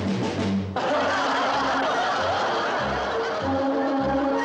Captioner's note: audience laughing; mischievous orchestral music